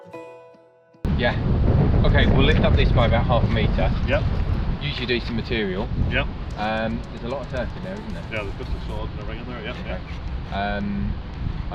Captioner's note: site meeting. Men speaking their own language